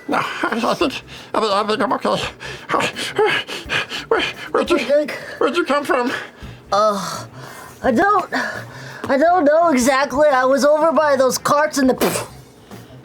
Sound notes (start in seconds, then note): 12.0 poof